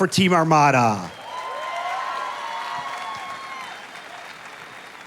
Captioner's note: audience applauding